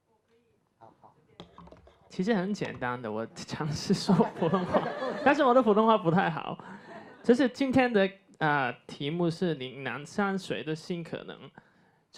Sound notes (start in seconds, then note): 2.5 Mandarin; 4.1 audience laughter